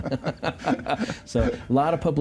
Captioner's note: laughter